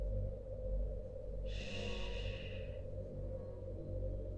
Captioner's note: schhh